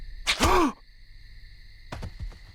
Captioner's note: gasps